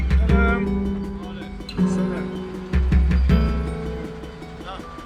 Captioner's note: speaking foreign language